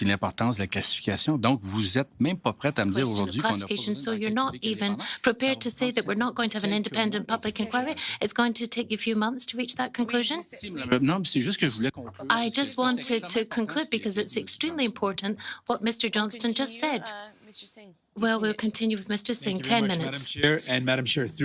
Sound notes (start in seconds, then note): 0.9 speaking in French